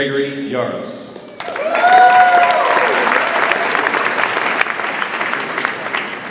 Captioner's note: audience applauds and cheers